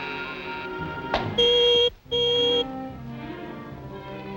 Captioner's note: machine buzzes; signal beeps